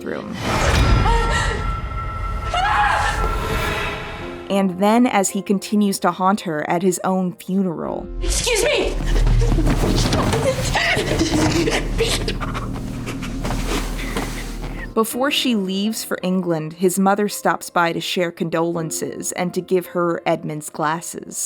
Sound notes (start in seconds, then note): 0.2 Dani gasps and screams; 9.8 Dani gasping and sobbing